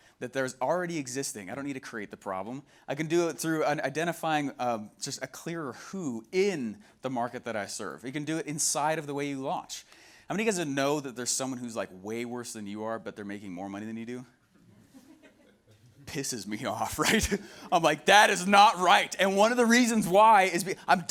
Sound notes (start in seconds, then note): 15.2 laughing